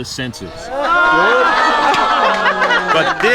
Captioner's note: cheering and laughing